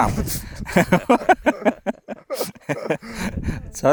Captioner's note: laughter